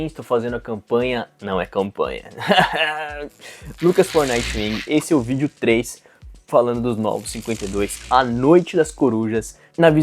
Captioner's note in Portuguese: risadas